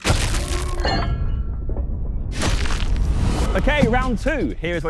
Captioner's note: metal clanging